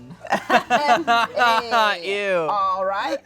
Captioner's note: everyone laughs